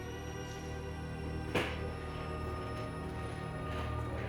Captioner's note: suitcase rolls